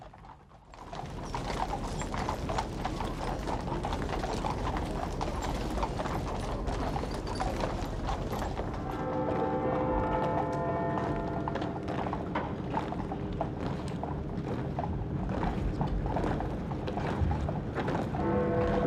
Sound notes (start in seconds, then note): 0.2 hooves clopping; 9.4 bell tolling